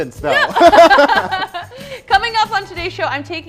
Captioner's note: both laughing